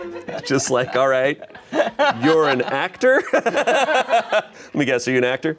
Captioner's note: laughs